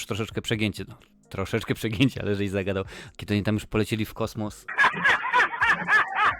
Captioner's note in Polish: śmiech